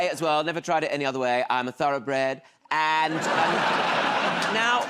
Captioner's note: laughter